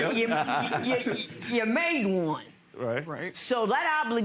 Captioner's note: chuckling